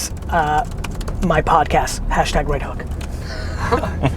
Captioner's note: group laughter